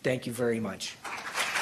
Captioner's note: applause